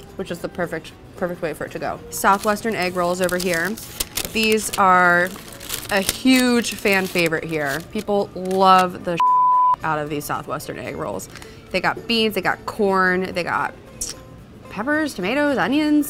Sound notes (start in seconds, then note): 9.2 beep